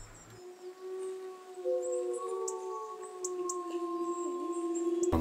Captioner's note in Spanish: Aullido de lobos